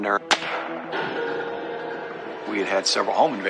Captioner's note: gunshot